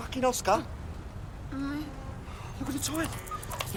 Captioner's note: moaning